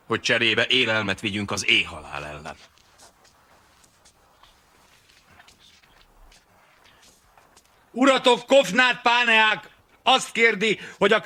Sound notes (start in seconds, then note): 3.9 whispering